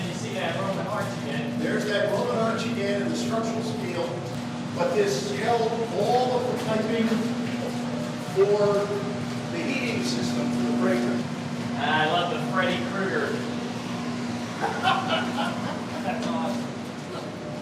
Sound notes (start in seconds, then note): 14.5 laughing